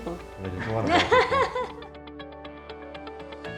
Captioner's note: laughs